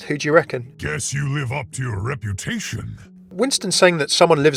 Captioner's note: voiceover